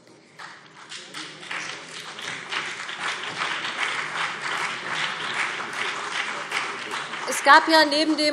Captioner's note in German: Beifall BÜNDNIS 90/DIE GRÜNEN und CDU